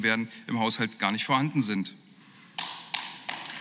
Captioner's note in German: Beifall